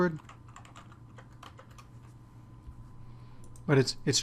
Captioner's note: typing